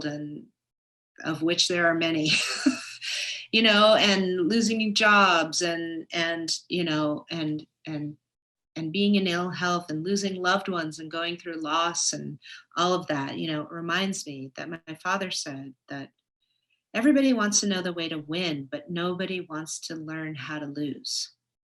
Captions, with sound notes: of which there are many, (laughs) and losing jobs, and being in ill health, and losing loved ones, and going through loss and all of that. It reminds me that my father said that everybody wants to know the way to win, but nobody wants to learn how to lose.